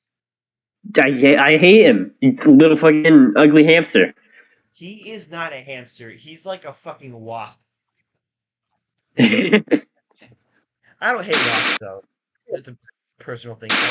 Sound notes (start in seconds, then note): 9.2 both laugh